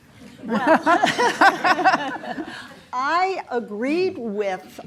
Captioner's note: laughs